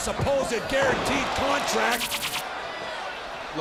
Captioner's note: crowd cheering